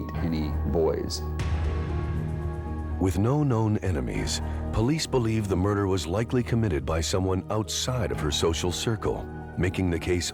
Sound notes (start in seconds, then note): none